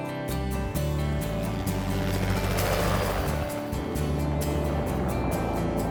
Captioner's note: helicopter flying past